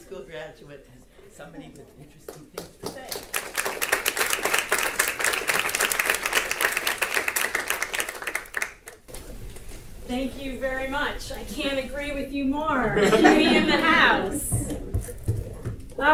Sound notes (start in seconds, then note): 2.8 audience applause; 12.9 audience laughter